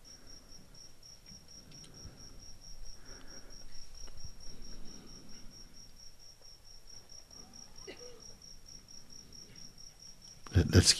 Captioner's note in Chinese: 靜默